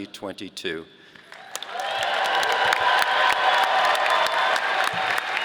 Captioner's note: audience applauding